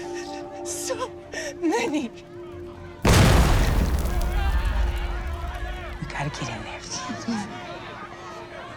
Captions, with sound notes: So many. [explosion] - We gotta get in there. - I can't leave her.